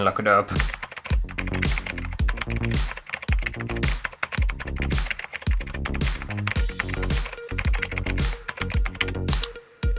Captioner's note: keyboard Typing